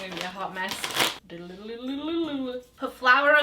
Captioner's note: speaks gibberish